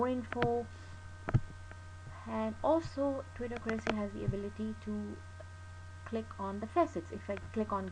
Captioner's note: clicking